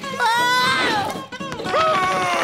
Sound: screaming

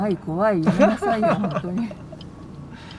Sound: laughs

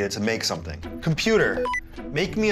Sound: beeping

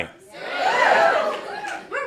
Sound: audience cheers

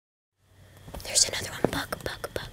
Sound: whispering

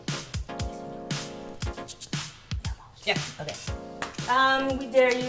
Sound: whispers

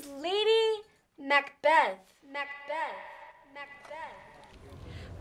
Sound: "Macbeth" echoes

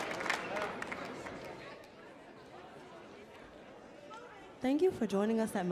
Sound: audience chattering

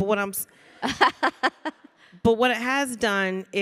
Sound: Samantha chuckling

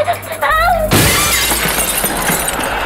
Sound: glass smashing

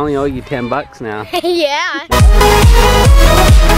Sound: laughing; upbeat techno music

